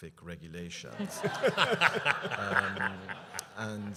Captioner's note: laughter